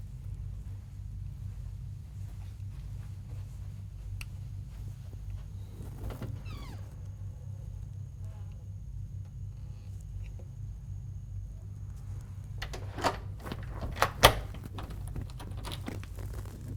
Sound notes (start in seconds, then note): 5.8 door creaks; 12.6 lock clicks